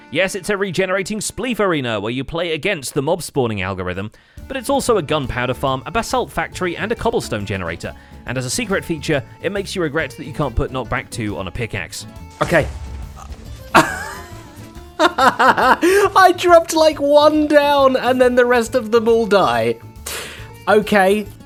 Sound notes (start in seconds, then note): 12.4 creeper explodes; 14.9 laughs